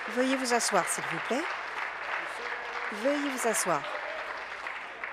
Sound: applause

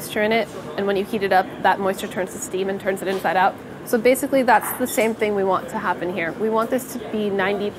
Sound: none

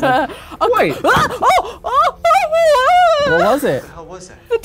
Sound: shrieks

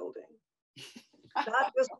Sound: Eileen laughs

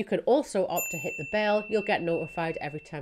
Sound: bell chimes

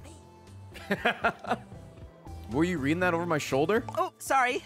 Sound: laughs

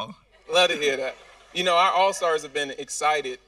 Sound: audience laughing

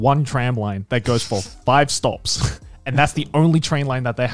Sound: laughing

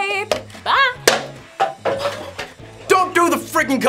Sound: knocks cup afar

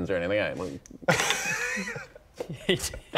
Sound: cheeky laugh

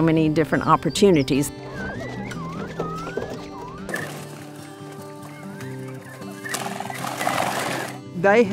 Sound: quail chirping

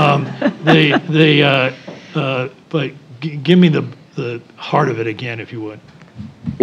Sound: laugh

